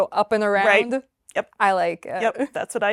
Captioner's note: laughs